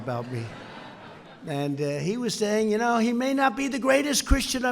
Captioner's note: laughter